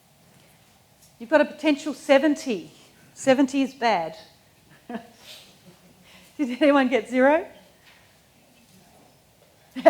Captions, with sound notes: You've got a potential 70, 70 is bad. (chuckles) Did anyone get zero?